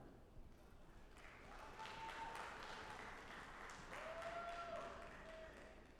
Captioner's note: audience applauding